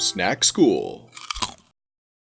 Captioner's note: Crunch